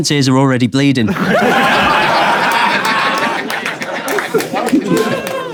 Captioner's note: people in room laughing